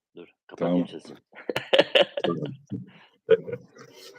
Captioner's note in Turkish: kahkaha